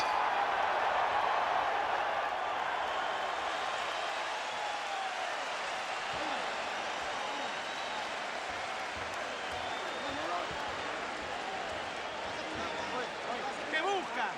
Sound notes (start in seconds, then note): 1.3 cheering